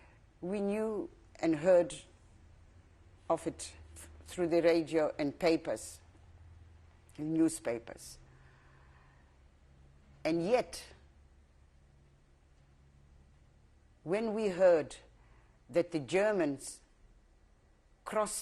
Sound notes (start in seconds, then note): 11.0 pauses for 3 seconds